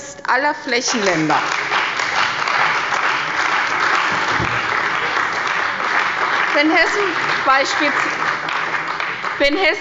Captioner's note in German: Beifall bei der CDU und dem BÜNDNIS 90/DIE GRÜNEN